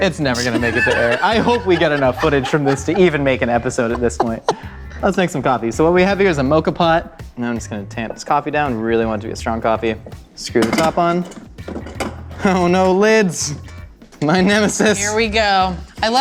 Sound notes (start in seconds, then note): 4.3 laughter